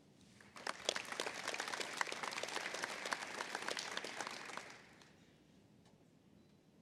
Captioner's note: applause